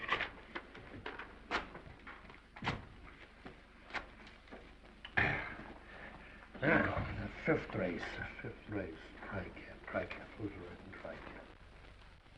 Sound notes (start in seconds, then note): 1.5 paper ripping; 5.1 sighs